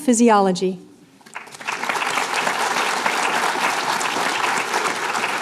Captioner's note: applause